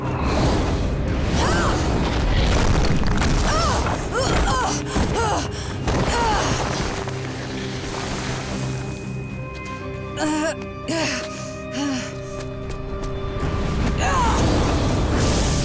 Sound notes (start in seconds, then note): 0.8 grunting; 3.0 groaning; 9.8 groaning; 13.4 grunting